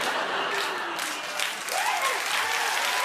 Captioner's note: laughter and applause; booing; cheering and applause